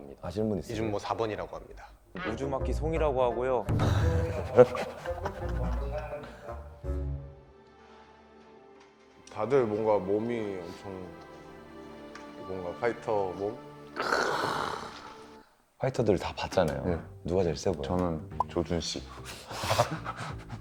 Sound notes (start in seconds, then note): 3.9 laughing